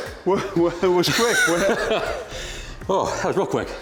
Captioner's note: laughs